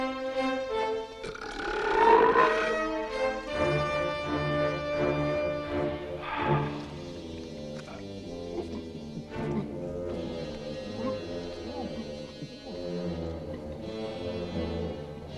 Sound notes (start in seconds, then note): 1.1 Torente belches; 6.4 Torente sighs; 8.4 Torente gulping